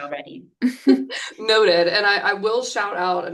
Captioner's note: chuckles